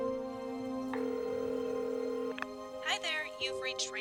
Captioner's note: phone ringing